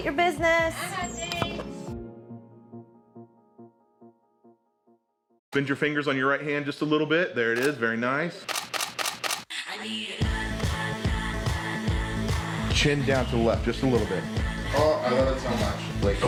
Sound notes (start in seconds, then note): 8.4 camera shutter clicking